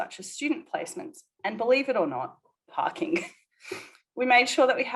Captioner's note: chuckles